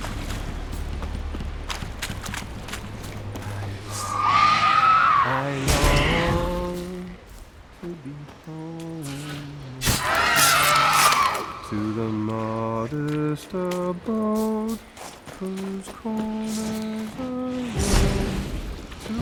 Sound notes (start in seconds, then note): 3.8 screech; 6.1 sad melody